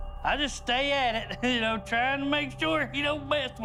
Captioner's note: laughing